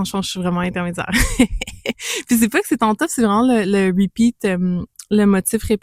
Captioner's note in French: rires